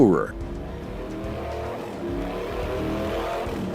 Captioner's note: bike revving